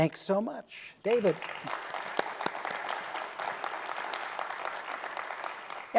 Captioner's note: applause